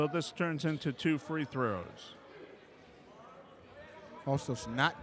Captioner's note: yelling